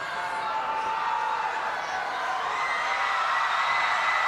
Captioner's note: crowd cheering